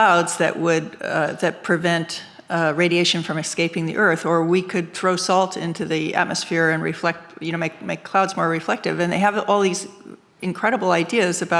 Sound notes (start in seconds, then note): none